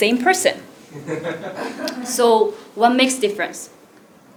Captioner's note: laugh